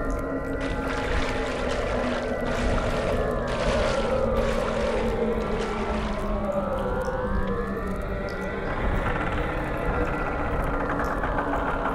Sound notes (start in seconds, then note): 0.4 slight sloshing